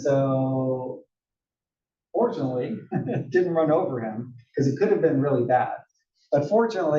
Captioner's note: laugh